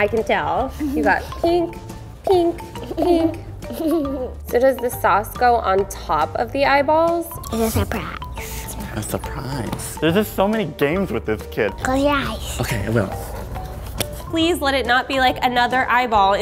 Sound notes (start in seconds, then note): 4.4 laughs